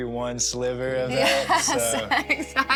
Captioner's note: laughter